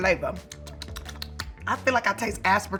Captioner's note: lips smacking